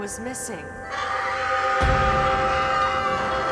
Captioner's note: Anne screams